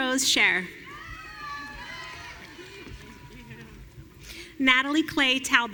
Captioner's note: audience cheering